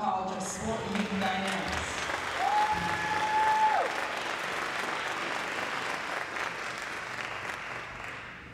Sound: applause

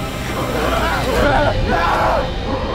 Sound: shouts

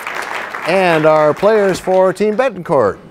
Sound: applause

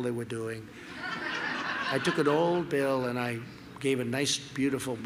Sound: laughter

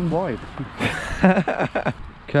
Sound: laughing

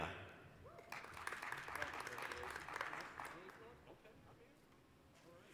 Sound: applause

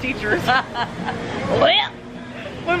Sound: laughing

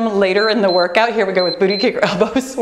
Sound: timer beeps

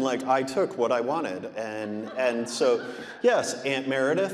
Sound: audience laughing

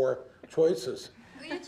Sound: laughter

